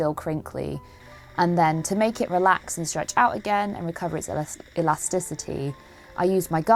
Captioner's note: steamer noises